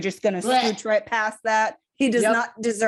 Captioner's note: gag noises